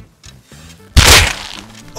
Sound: bam

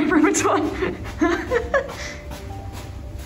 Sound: laugh

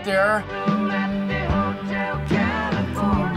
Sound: hums along; sings along

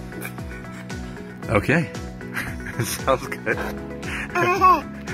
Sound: baby laughs; laughs

